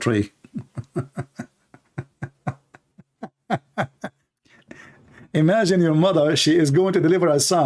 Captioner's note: Ketawa